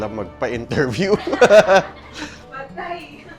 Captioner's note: laughs